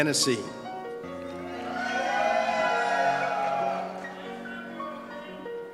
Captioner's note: cheers